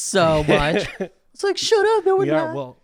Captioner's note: laughing